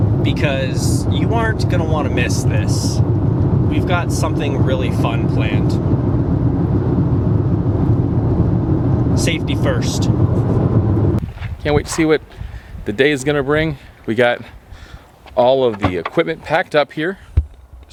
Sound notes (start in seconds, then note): 8.5 car engine roaring